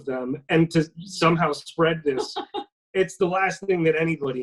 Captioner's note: laughing